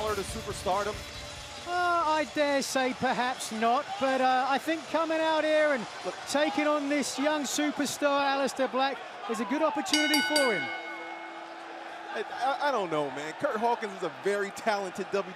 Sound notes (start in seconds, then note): 9.9 bell ringing